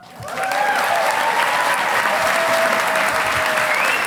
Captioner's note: audience applauding